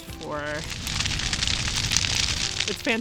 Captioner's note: loud fire